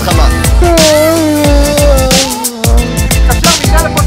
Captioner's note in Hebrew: פיהוק